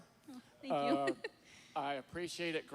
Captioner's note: giggle